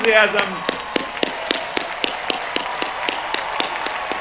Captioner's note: cheering